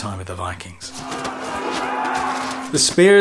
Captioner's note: battle cries